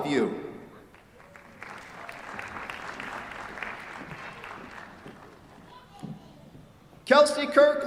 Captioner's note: applause